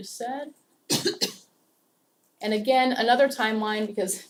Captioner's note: cough